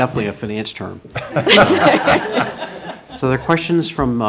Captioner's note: laughing